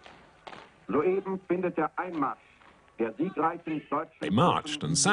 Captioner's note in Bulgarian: Аудио на немски